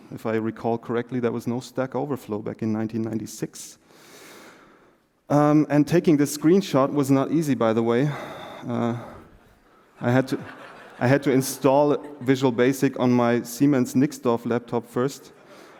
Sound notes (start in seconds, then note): 13.5 laughter